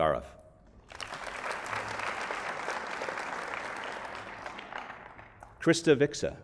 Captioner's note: applause